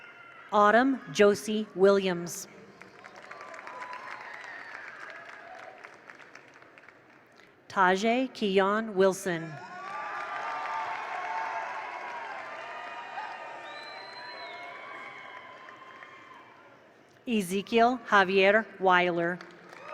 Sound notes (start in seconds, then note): 2.7 attendees applaud; 9.6 attendees cheer; 9.7 attendees applaud; 19.4 attendees applaud; 19.6 attendees cheer